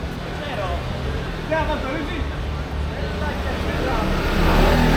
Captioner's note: people chattering